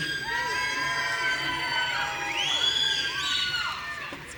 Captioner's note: audience cheering